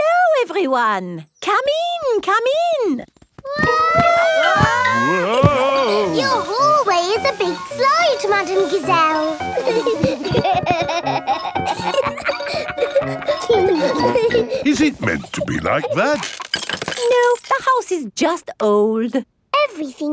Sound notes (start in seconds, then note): 3.9 all yelling; 10.3 giggling